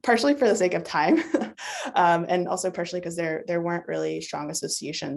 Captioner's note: chuckles